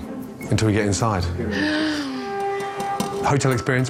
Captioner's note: gasping loudly